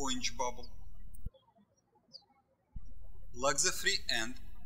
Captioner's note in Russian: птички щебечут